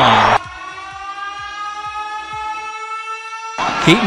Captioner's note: siren